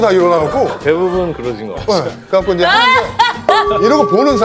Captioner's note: calmly